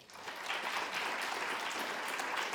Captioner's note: applause